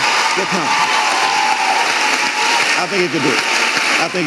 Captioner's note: audience applauding and cheering